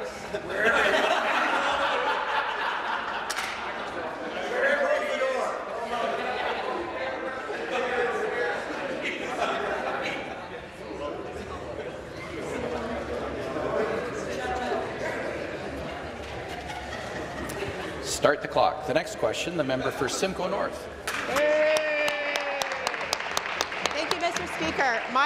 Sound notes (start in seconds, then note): 3.4 laughter; 12.9 conversation din